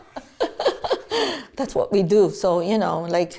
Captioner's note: laughs